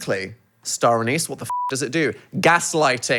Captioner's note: beep